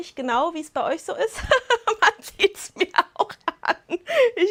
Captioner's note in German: Lachen